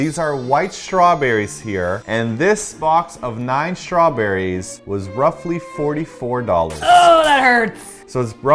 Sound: strained

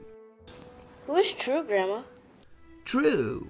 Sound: none

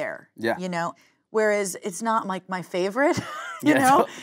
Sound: laughing

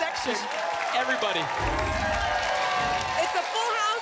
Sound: applause and cheering

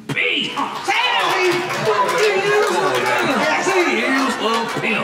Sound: audience clapping

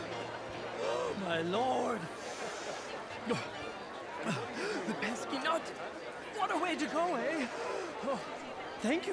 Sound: gasping

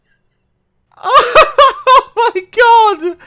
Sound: laughing

